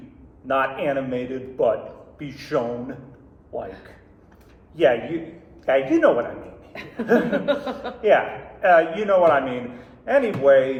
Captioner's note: laughter